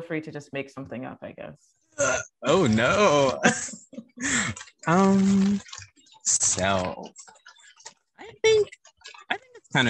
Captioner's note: chuckles